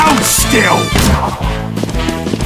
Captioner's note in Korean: 활 발사